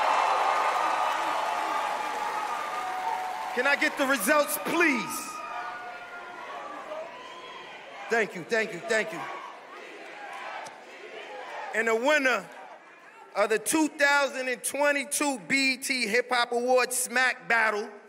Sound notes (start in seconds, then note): 7.9 cheers and applause